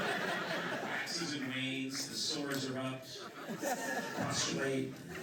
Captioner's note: laughter; laughter